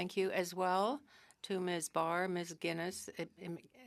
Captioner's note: speaking french